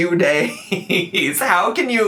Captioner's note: laughing